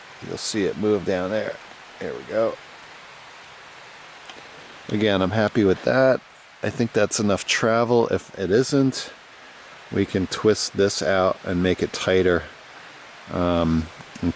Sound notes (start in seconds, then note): none